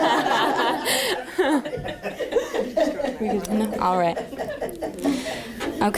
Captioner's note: laughter